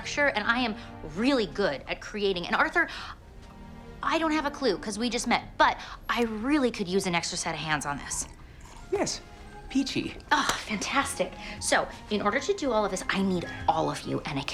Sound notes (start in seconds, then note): 10.4 hands clapping